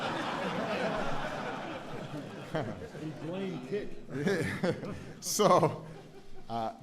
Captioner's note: laughter